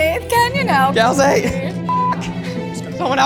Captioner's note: beep